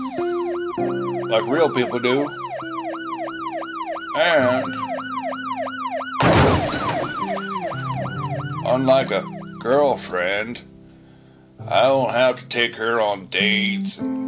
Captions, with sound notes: *Police Sirens* ... like real people do. And.... *Glass Shatters From Impact* Unlike a girlfriend... I don't have to take her on dates...